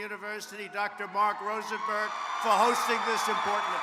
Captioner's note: applause